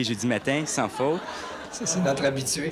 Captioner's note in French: rires